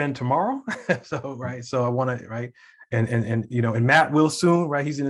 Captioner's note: laughing